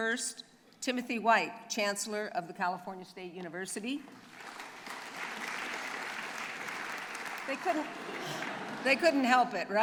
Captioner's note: applause